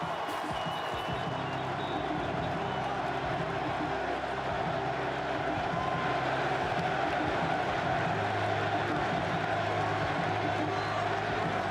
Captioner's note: cheering